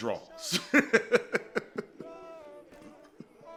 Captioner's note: chuckles